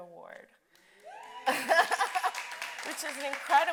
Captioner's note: audience cheering